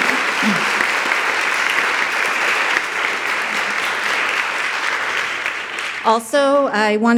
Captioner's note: audience applauding